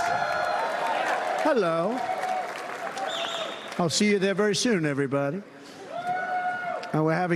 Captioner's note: cheers and applause